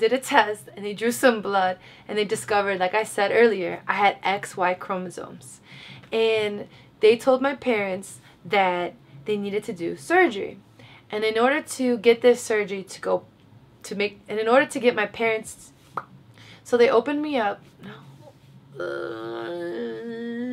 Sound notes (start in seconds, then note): 15.8 pop sound; 18.7 sighs